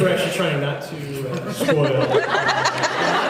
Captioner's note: laughing; laughs